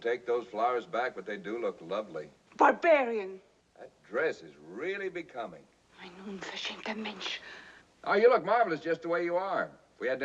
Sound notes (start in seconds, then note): 6.0 speaks foreign language